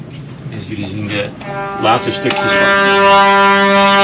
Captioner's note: sound of ship's horn